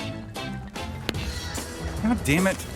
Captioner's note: gunshot